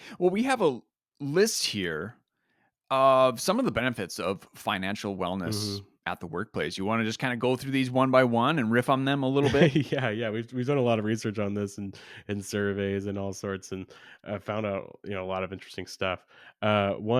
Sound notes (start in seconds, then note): 9.4 laughs